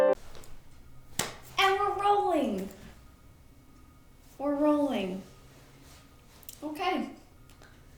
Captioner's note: clap